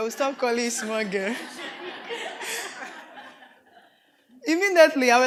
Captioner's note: audience laughs; laughing